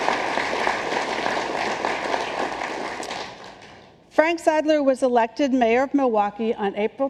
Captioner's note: applause